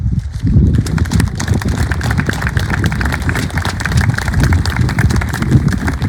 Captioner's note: applause